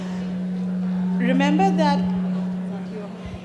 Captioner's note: low humming of microphone interference